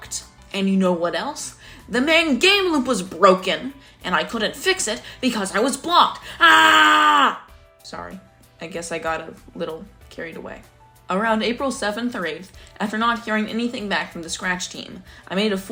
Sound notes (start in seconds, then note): 6.4 scream